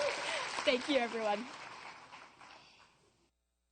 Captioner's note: applause and cheers